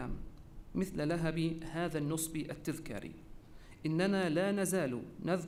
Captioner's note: repeated in Arabic